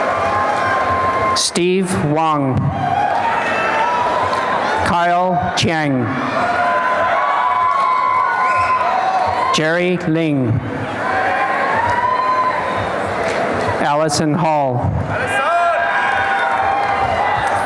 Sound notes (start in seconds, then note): 2.8 applause and cheering; 6.3 applause and cheering; 11.6 applause and cheering; 15.3 applause and cheering